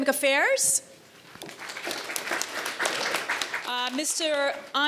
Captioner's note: audience applauds